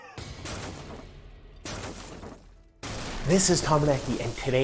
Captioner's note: glass breaking